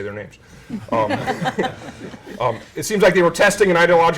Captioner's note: laughter